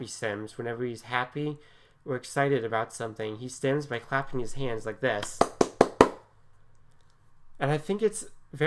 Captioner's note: clapping noises